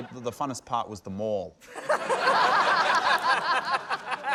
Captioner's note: laughter